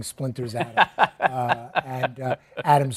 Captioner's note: laughs